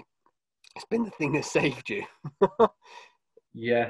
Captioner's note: laughs